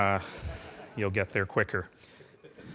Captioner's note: laughing